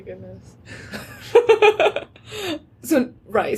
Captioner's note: laughter